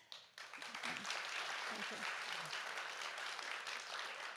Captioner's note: audience applauds